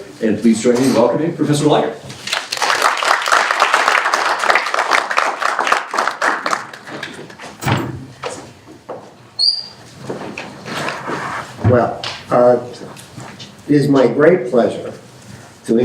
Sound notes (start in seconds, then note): 2.2 applause